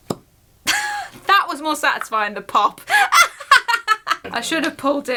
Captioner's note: laughs